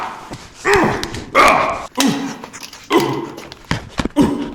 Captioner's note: punches; Breckenridge grunts; sounds of impact